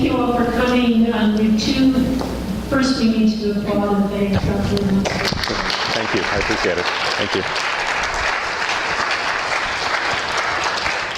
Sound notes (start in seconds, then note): 5.0 applause